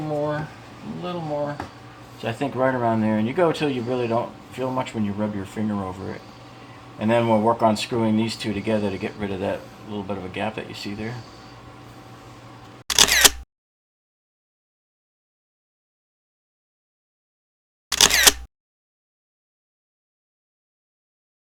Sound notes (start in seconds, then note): 9.3 camera lens snapping; 17.9 camera lens snapping